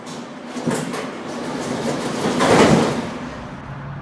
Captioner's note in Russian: открытие дверей